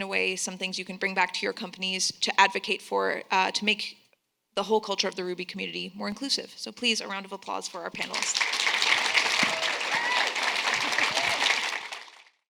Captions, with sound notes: some things you can bring back to your companies to advocate for, to make the whole culture of the Ruby community more inclusive. So please, a round of applause for our panelists. (group clapping)